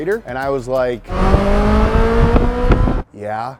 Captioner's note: engine revving